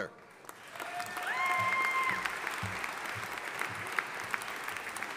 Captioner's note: audience applauding